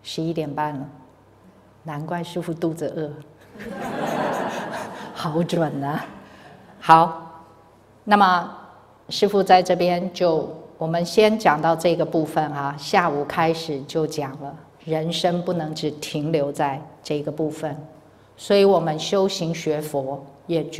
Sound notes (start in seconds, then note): 3.4 laughter